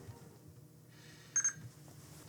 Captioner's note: bebeep